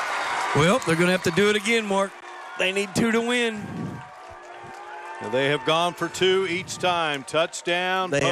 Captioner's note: applause